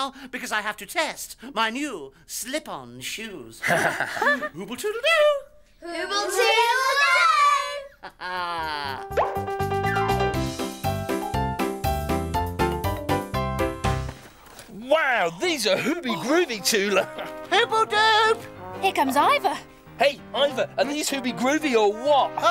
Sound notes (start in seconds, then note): 3.6 laughs; 7.6 laughs; 9.0 childrens music